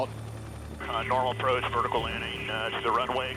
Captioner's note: man On Radio